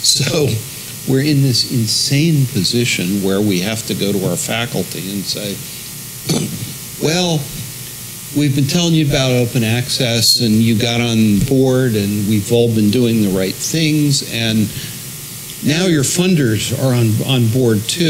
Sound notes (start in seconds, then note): 0.3 laugh; 6.2 cough